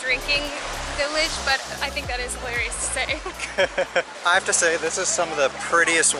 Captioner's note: laughter